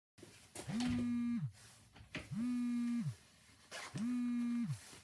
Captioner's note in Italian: Telefono che vibra